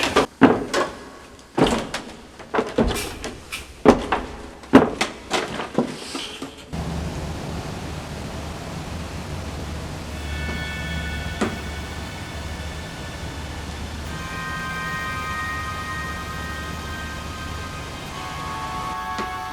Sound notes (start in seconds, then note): 0.0 footsteps; 6.7 howling wind; 6.8 mystical horror music